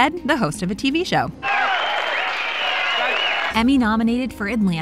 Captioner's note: audience applauds